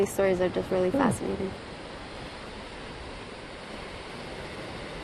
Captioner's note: wind rushing